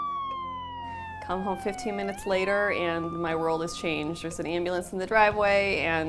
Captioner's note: siren